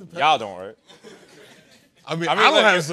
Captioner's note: laughter